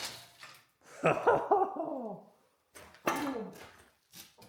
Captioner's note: laughter